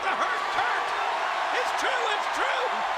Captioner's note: crowd cheers